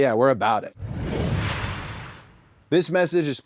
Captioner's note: logo whooshes